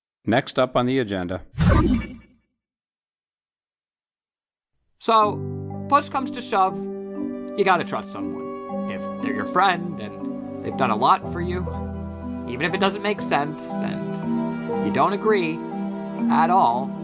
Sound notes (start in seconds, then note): 1.6 teleport sound